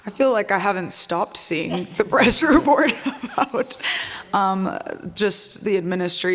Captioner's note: laughs